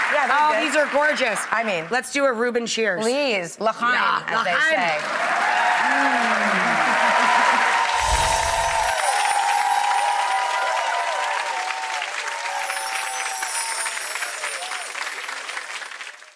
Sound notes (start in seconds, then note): 7.9 twinkling noise; 12.4 twinkling noise